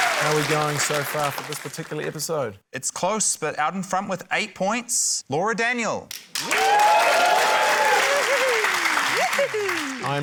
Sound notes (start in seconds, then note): 6.3 cheering, applause